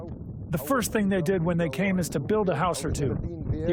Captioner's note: through translator